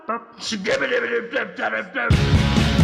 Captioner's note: harshly